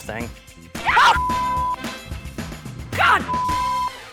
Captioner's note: screaming